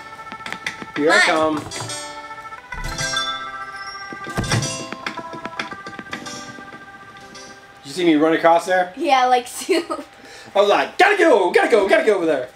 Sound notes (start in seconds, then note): 2.7 door chime; 4.1 door shuts; 6.3 foot steps